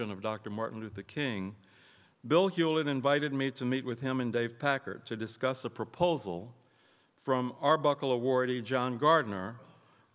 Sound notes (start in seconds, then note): none